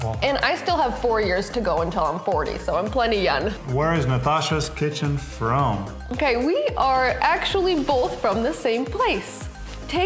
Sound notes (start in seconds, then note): none